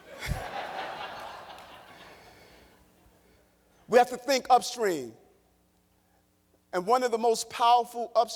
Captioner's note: laughter